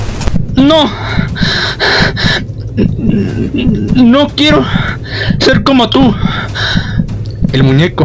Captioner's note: panting